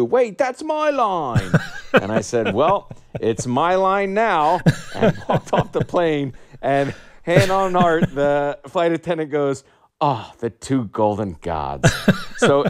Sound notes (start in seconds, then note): 1.3 laughter